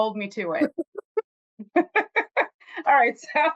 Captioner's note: laughter